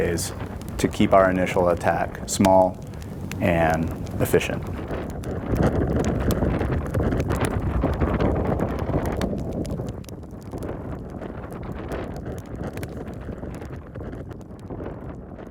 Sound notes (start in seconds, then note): 4.9 wind howling; 11.7 flames crackling